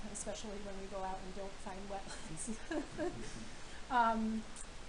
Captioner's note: laughing